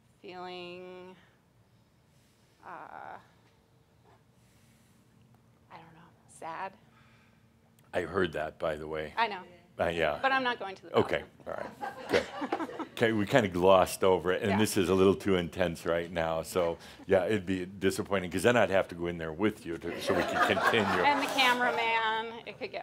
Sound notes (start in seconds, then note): 11.4 some chuckles; 19.8 laughter